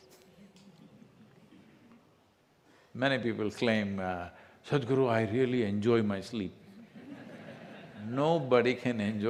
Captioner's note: few laugh